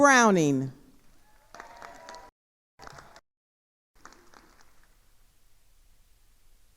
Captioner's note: attendees cheering and applauding